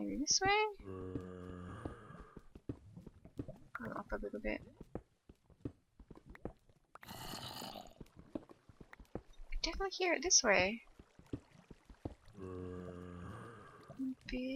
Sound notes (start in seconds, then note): 6.4 zombie moans; 13.7 zombie groans